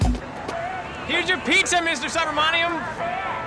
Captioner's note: shouting